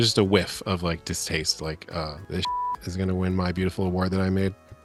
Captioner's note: beep